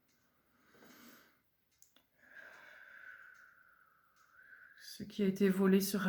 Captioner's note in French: soupir